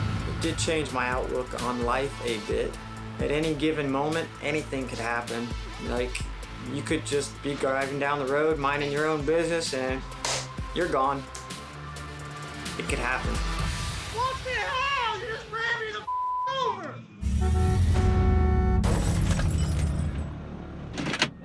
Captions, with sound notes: >>It did change my outlook on life a bit. At any given moment, anything could happen. Like, you could just be driving down the road, minding your own business and- (hands clapping) You're gone. It could happen. What the hell? You just ran me the (beep) over.